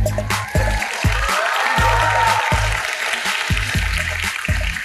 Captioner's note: applause